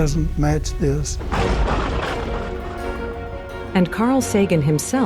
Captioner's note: thunder cracking